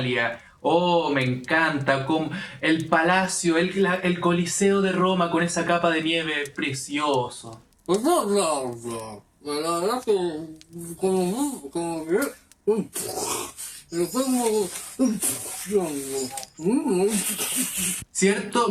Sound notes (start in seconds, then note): 7.7 tea noises